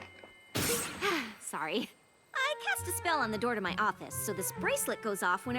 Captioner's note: poof